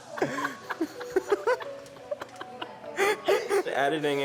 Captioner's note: both laughing